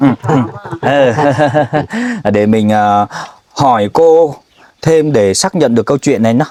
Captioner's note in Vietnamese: tiếng cười